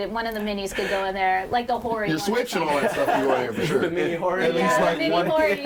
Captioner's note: overlapping chatter and laughter